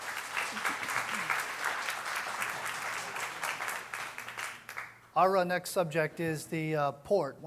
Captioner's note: applause